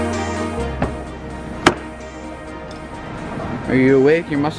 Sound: car door opening

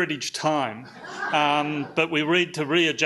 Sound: audience laughs

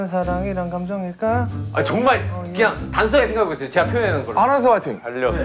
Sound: frustrated

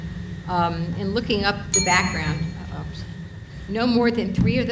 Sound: bell dings

